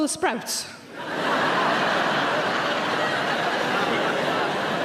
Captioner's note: audience laughing loudly